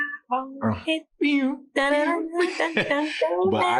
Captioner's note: humming; both laughing